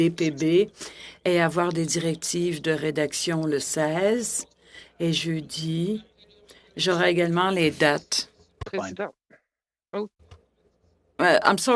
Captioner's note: speaking French